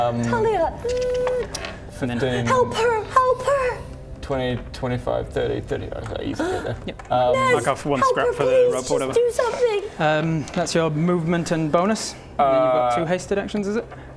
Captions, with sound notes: Talia! *tchk chk chk chk* - 15... - Help her! Help her! 20, 25, 30, 35... - He goes there. - Yup. - Naz! Help her please! - Mark off 1 scrap for the rope or whatever. Just do something! That's your movement and bonus? You've got two hasted actions, is it?